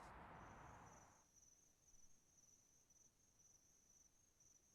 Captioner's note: insects chirping